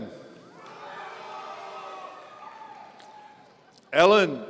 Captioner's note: audience cheering